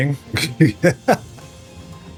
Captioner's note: laughter